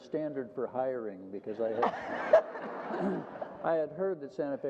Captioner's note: group laughter